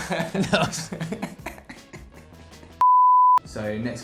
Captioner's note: laughing